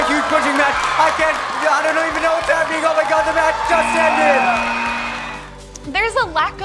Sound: people cheering

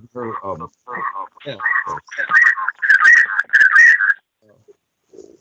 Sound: microphone feedback

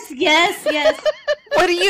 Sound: laughter

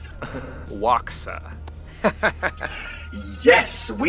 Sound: laughs

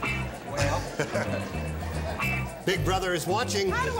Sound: low chatter, laughter

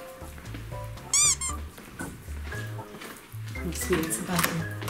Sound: squeaking noise

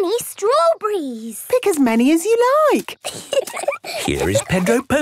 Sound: giggling

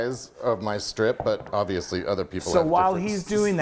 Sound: laughs

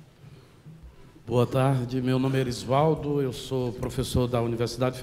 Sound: speaking portuguese

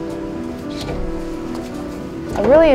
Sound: door opens and closes

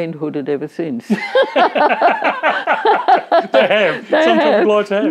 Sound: both laugh

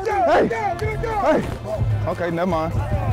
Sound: football players chanting

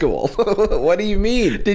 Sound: chuckles

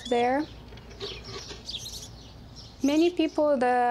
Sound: birds chirping

